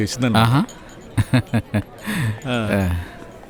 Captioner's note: chuckles